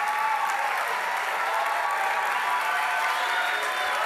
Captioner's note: applause